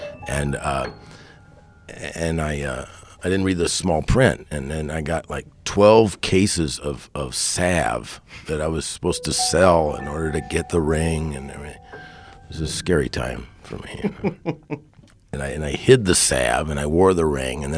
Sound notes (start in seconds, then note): 13.8 laughing